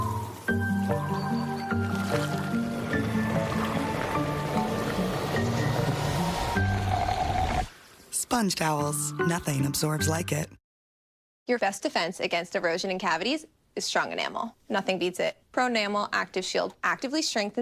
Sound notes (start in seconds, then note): 7.6 draining sound